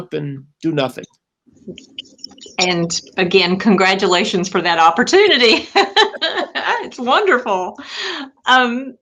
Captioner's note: laughter